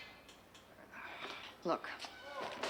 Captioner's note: sighs